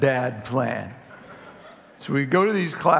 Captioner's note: congregation laughing